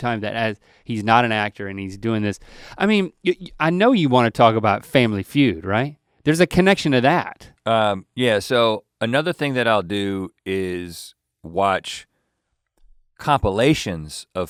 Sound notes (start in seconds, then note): none